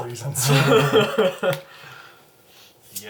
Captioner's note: all laugh